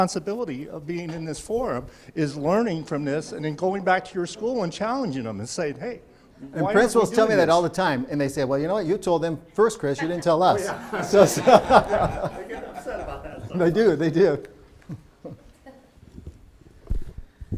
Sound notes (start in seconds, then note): 10.0 everyone laughing